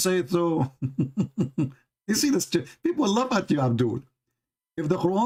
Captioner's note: Ketawa